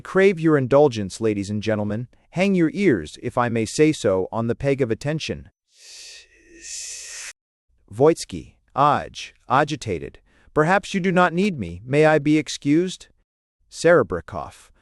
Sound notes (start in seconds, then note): 1.7 agitated